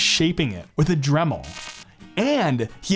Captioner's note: electric buzzing